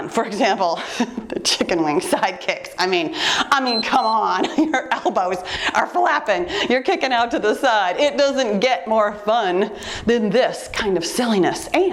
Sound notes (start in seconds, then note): 3.5 timer beeps